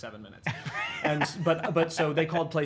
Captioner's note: laughing